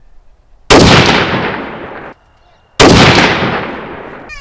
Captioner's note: gunshots